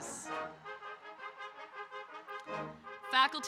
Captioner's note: audience cheering